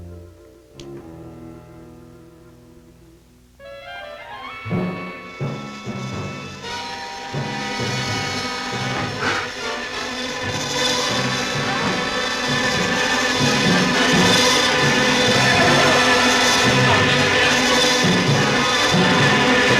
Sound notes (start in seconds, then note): 3.9 dramatic music; 9.1 gasping; 10.7 buzzing; 12.0 yelling; 14.0 dramatic music